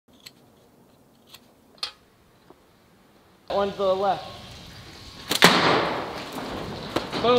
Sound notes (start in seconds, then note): 0.1 knife scraping; 5.4 clay shot thudding metal